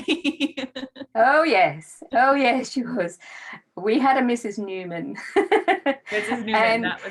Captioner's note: laughs; laughs